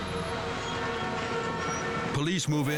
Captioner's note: suspenseful music; cars honking